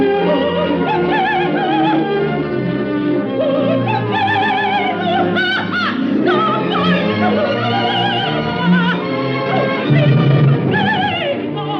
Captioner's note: with sordid irony